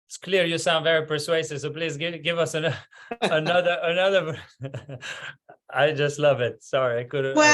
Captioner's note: laugh